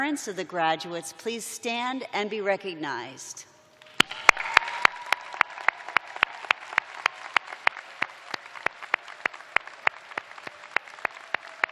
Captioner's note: cheers and applause